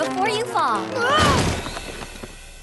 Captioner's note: crash!